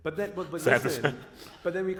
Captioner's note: laughter